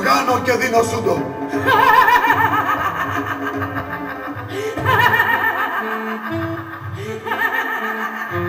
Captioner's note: σατανικό γέλιο